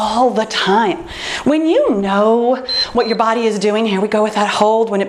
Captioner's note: timer beeps